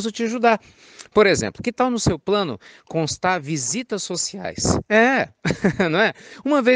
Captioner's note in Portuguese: risos